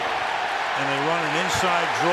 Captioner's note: cheering